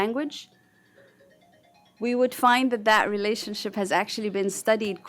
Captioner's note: phone ringing